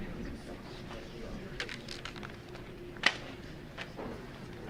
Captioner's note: light chattering